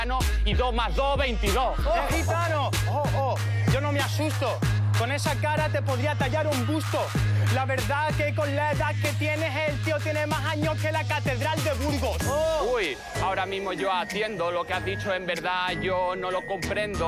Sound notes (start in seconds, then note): 12.0 shouts